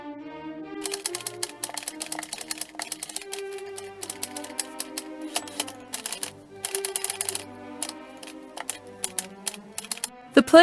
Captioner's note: sounds of a typewriter